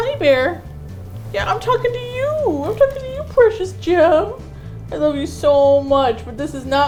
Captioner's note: sweetly